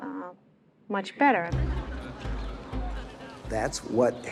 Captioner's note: people talking in background